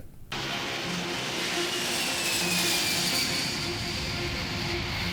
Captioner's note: airplane engine roaring